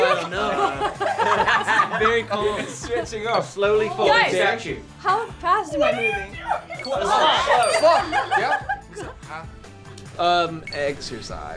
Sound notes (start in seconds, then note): 2.3 group laughing; 5.9 laughs; 6.7 bell dings